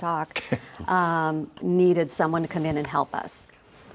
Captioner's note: laughs